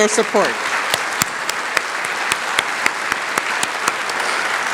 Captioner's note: applause